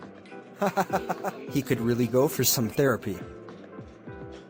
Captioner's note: giggling